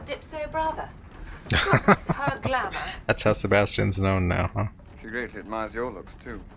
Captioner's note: laughing